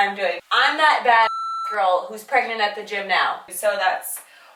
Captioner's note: beep